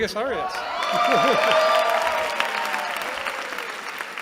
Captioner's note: cheering